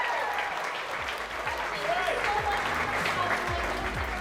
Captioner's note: crowd cheering